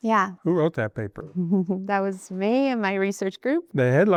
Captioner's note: laughs